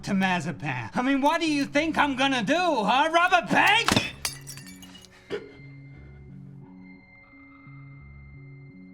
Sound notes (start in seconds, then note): 3.1 glass breaks